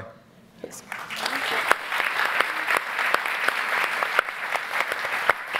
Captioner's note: audience applauding